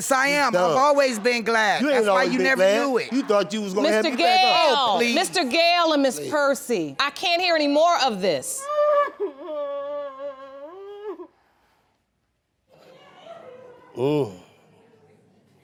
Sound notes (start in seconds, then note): 8.6 crying; 13.7 grunts